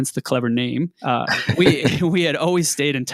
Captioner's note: laughing